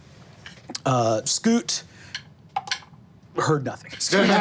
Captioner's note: group laughing